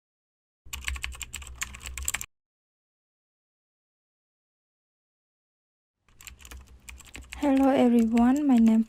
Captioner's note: computer typing SFX